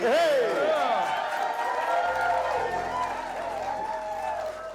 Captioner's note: cheers and applause